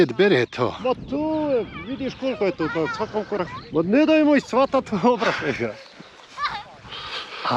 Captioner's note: laughs